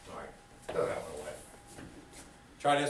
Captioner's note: student speaks softly